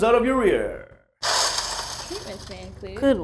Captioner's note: crashing sound